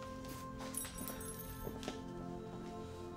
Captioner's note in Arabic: رنين